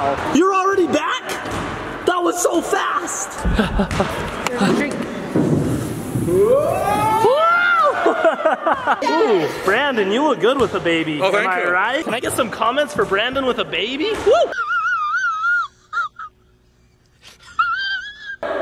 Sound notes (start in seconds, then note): 14.4 laughs uncomfortably